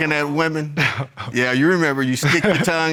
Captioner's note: chuckles